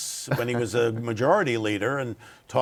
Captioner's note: laughs